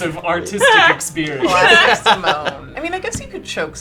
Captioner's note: laughing